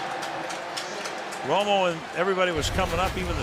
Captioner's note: pa announcement